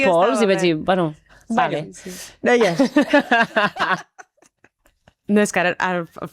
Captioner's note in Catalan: rialles